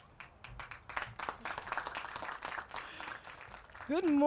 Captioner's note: applause